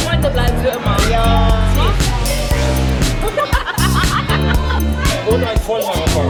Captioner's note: laugh